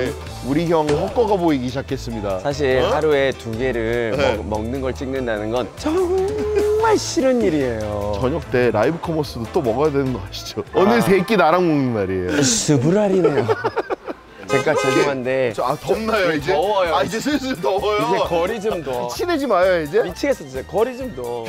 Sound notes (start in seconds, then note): 12.2 laughing